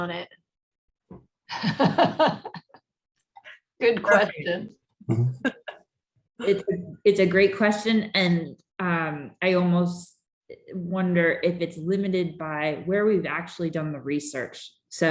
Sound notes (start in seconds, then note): 1.5 laughter; 4.3 laughter